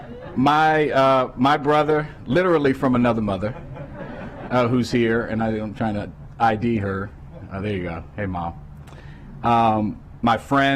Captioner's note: laughter